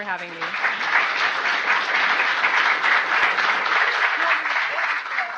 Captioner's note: audience applauding